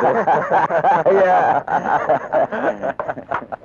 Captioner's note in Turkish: Kahkahalar